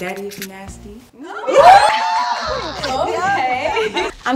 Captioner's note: all laughing